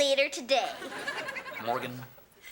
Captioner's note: audience laughing